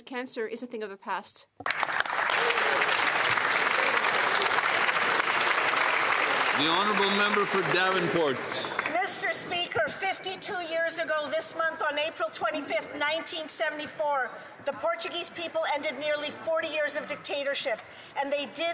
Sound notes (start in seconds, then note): 9.7 applause